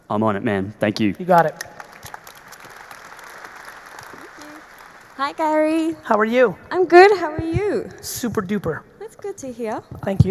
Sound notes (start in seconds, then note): 1.3 audience applauding